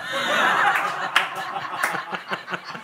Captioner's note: laughter